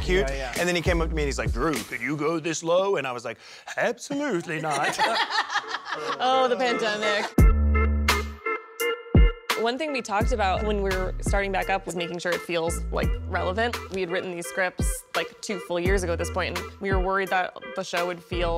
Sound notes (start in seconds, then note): 1.7 using deep voice; 4.2 laughter; 7.2 curious music plays